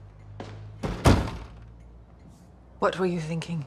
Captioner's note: door thuds shut